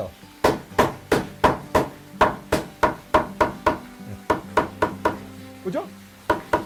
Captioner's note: hammering sound